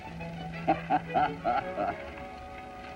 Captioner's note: laughter